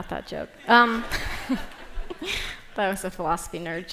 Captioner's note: laughter